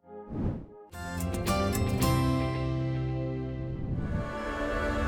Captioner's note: swoosh